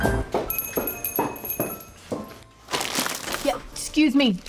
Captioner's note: footsteps; doorbell jingles